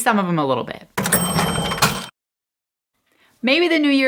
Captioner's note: cha-ching noise